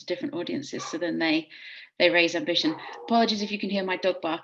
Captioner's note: dog barking